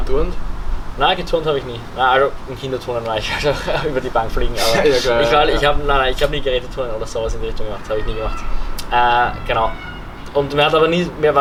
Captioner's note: chuckles